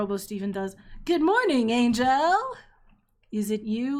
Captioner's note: kind of a wobbly voice